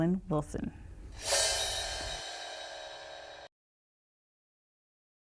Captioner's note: gong shakes